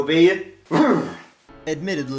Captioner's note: shudders